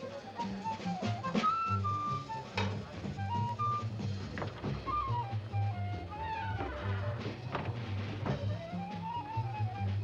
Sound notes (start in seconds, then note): 4.8 jazz music; 6.2 door squeaks shut; 8.5 jazz music